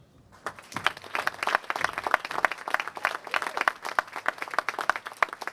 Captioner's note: applause